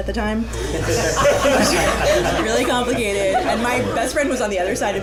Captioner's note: laughter